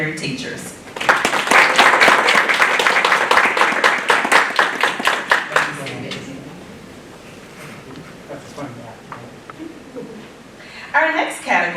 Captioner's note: applause